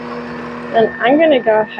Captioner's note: mixer sound